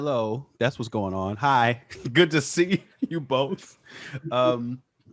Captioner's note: laughs